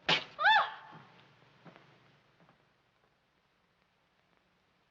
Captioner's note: Miss Minchin exclaims